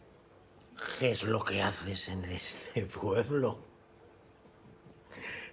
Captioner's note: in slurred voice; chuckles